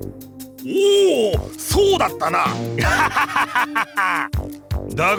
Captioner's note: laugh